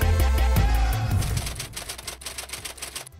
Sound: typewriter keys clacking

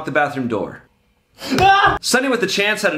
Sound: screams

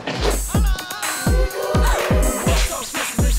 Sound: gasping

